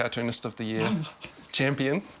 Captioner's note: snorts